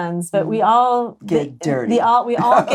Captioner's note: laughs